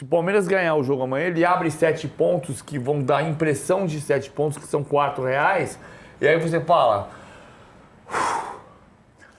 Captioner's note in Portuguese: suspirando